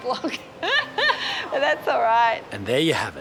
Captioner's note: laughs